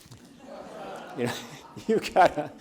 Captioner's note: audience laughs